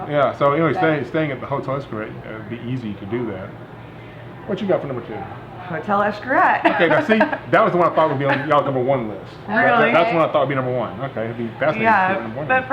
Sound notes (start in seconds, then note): 6.6 laughs